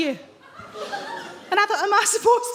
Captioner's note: audience laughs